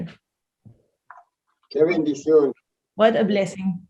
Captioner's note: speaks in Spanish